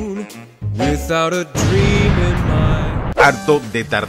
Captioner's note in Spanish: Explosión